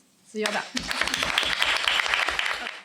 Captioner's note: applause